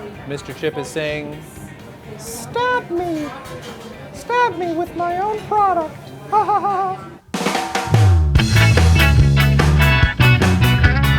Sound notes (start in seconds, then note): 6.4 laughing; 7.4 bright pop rock music